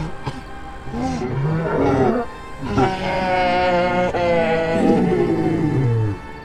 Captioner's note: creature groaning loudly